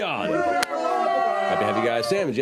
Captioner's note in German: Gejubel